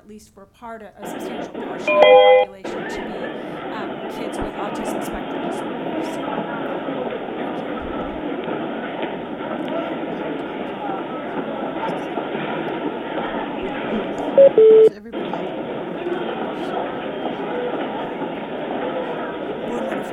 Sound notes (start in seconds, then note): 1.3 static rumbling; 14.9 beeping